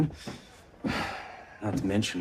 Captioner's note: sighs